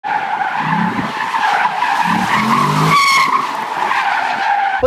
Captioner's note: car wheels screaching